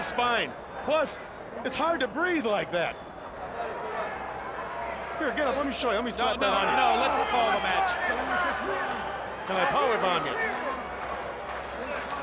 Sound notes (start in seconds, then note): 9.8 crowd chatter